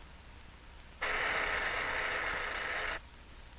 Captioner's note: machine whirring